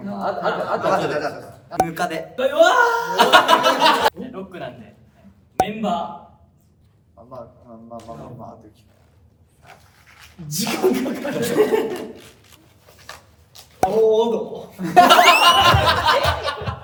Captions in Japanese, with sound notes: ロックなんで 時間かかる （笑い声） （笑い声）